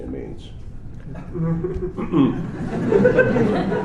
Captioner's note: laughter; clearing throat